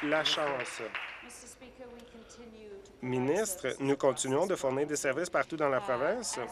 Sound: applause

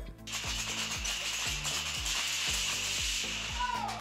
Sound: dominoes clattering

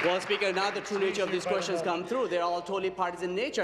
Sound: applause

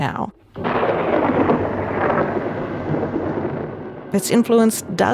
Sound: lightning striking

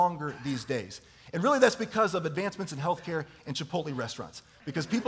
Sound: chuckling

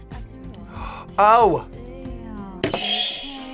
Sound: gasps; buzzer rings

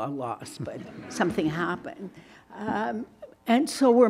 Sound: audience laughs

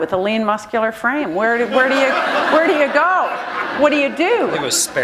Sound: laughter

